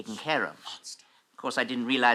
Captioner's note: whispers